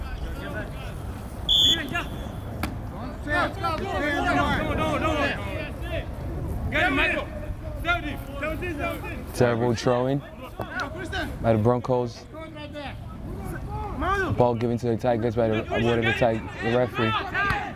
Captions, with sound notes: (whistle) Terrible throw in by the Broncos. Ball given to the Tigers by reward of the referee.